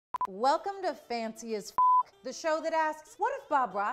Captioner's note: beep